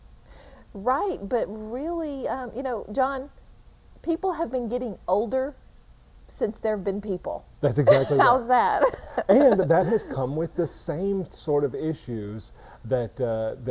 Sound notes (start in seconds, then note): 7.8 chuckling